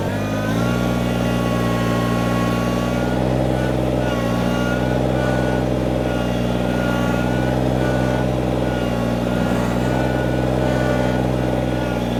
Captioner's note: tractor Engine